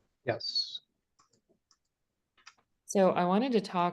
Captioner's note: mouse clicking